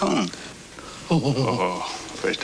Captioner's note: chuckles